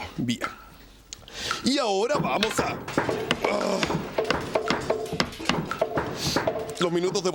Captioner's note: sound of hammer banging